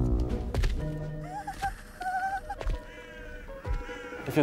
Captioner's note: she shudders nervously